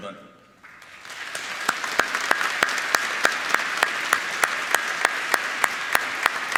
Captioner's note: applauding